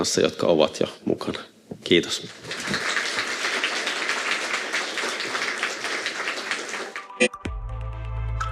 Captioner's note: Aplodeja